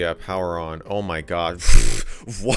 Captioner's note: pffft; more laughter